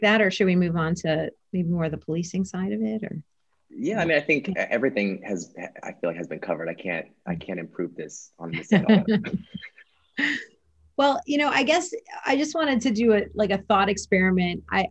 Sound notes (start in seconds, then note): 8.5 laughter